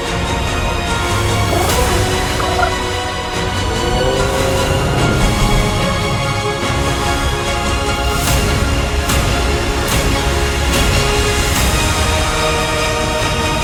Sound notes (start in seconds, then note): 1.4 cooing; 8.2 majestic music playing